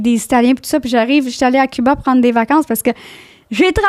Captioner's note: in french